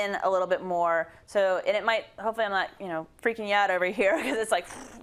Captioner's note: laugh